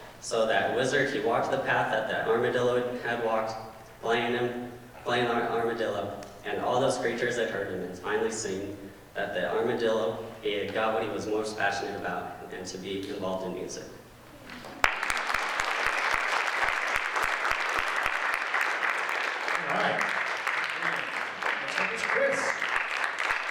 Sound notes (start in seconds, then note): 14.6 audience applauds